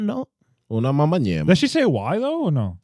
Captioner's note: speaking In Foreign Language